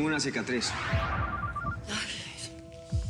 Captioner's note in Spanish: suena el celular